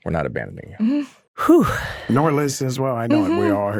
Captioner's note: Drake exhales